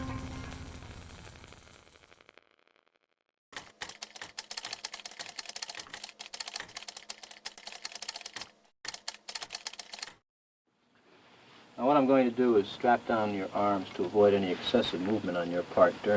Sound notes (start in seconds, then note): 3.5 keys typing